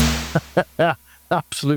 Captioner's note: laughs